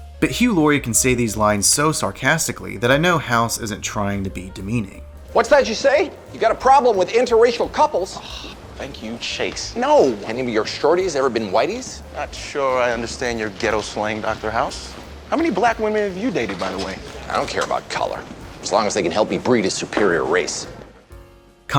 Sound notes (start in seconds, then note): 8.2 sighs